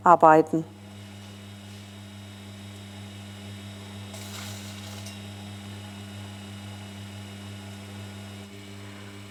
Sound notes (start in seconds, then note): 1.1 soft humming